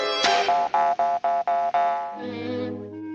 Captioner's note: nose flapping; gentle music